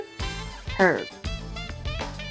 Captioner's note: voiceover